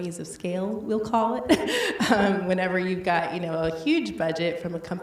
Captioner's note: laughs